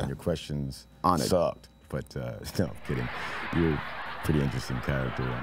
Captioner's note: laughter